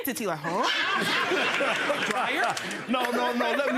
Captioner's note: audience laughing